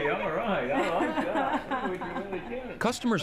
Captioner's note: laughing